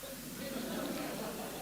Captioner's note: laughter